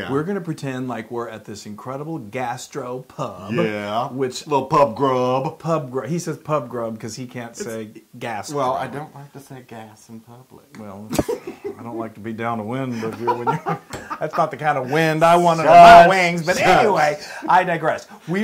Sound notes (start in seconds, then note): 11.1 laugh